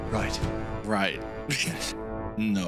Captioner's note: laughs